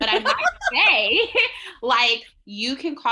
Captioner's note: giggling